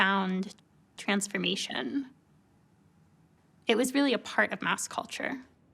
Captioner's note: none